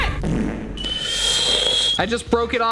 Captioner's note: fart rumbling; kettle whistling